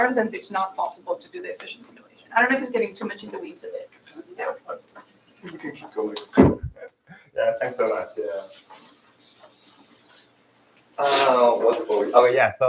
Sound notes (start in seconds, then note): 7.0 laughs